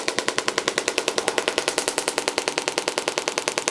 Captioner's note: machine tapping